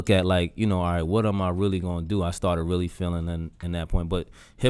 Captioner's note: none